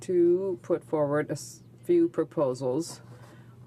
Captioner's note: speaking french